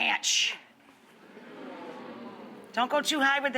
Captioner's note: audience oh's